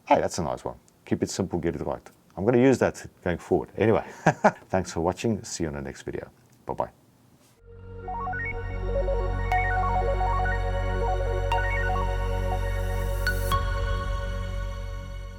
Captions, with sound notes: Hey, that's a nice one. Keep it simple, get it right. I'm gonna use that going forward. Anyway, (laughs) thanks for watching, see you on the next video, bye bye. (bright music)